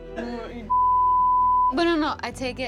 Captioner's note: beeping